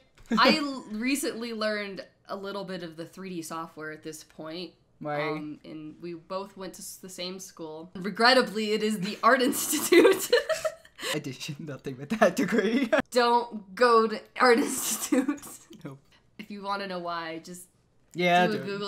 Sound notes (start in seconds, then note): 9.5 laughs; 9.6 gagging noise, laughing